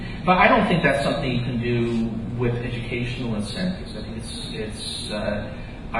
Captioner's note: none